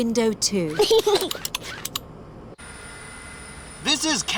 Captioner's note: snorts; giggles